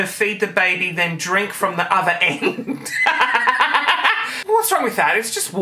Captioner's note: laughing